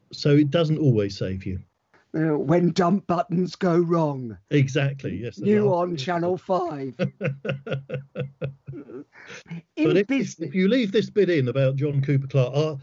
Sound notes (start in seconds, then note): 6.8 laughs